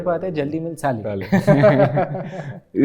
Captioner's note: giggles